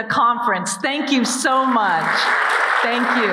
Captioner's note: audience applauding